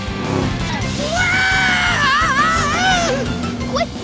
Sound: screaming

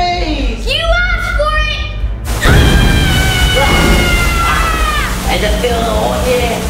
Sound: flames sizzle; yells

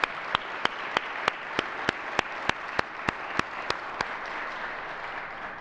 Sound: applause

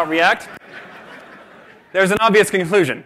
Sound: laughter

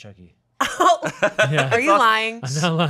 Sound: chuckling

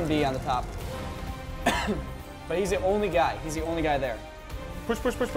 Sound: cough

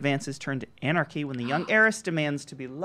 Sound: gasps

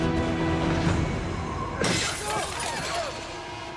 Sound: glass shatters

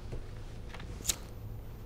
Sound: lighter flicking

